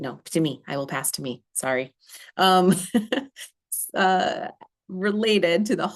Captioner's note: laughter